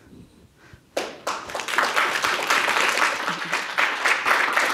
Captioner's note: audience applauds